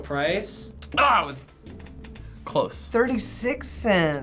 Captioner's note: groaning